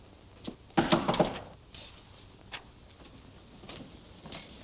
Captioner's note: door knocking